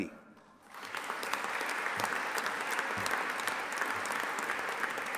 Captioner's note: audience applauding